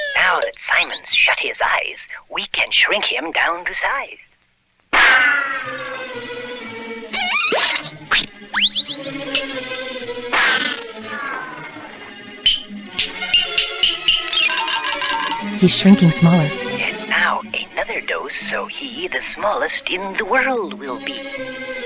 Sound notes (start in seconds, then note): 15.8 whispering